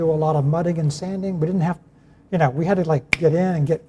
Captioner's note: fingers snapping